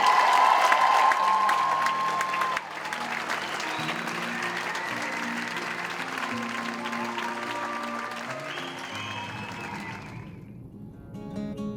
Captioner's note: applause